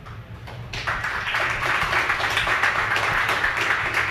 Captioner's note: crowd applauding